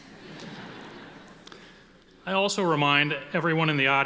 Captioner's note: audience laughing